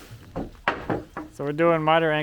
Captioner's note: wood clatters